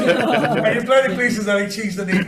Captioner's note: committee laughing